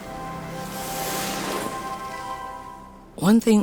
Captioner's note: skis gliding on snow softly